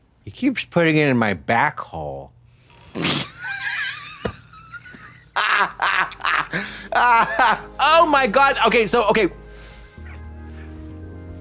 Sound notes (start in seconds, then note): 3.2 blonde Women hee-haw